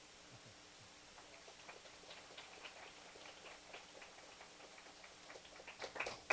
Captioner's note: applause